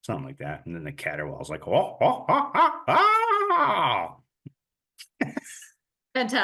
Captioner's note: barred owl calling